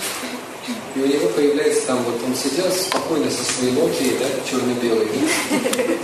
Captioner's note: смех